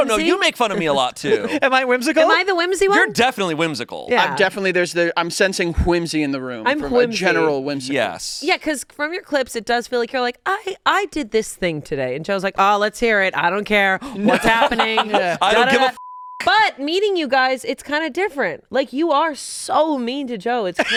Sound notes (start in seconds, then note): 15.8 beep; 20.8 laughing